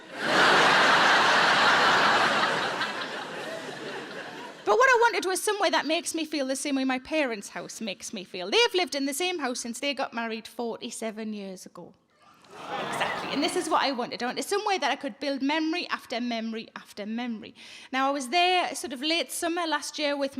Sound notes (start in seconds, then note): 0.0 audience laughing; 12.4 audience gasp